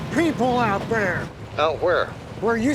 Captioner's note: on phone